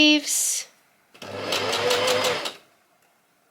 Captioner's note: sewing machine surges